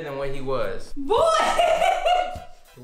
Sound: laughs

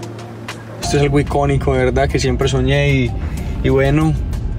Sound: speaks Spanish

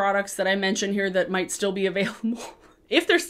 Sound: chuckles

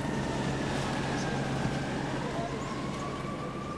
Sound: city noises

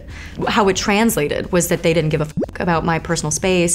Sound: bloop

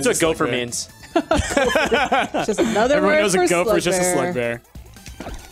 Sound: laughs

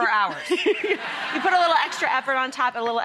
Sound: audience laughs

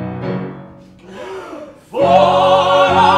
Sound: all take a big breath

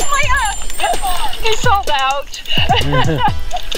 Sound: laughing

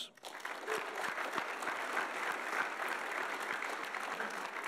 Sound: audience applauding

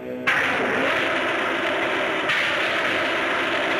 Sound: fire hissing

